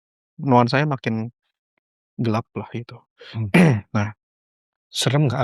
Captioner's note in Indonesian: berdehem